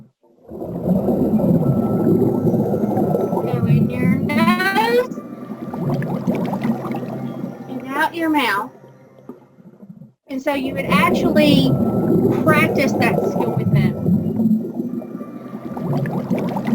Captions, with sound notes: (fish exhaling) Breath in your nose. (fish inhaling) And out your mouth. (fish exhaling) So you can actually practice that skill.